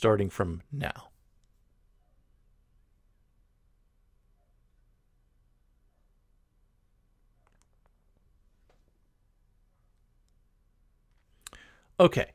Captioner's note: pause